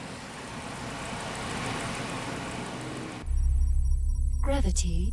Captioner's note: car idles